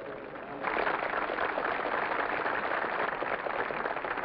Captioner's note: audience applauds